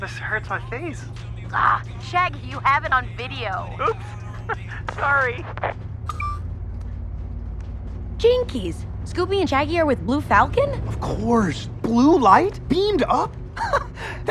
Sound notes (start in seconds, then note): 3.7 laughs